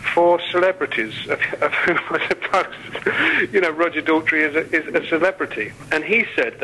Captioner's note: laughing